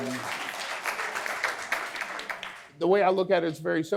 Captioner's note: audience applause